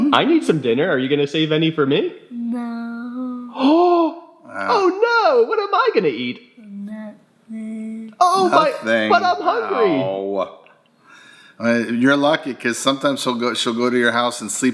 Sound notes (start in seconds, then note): 4.5 gasps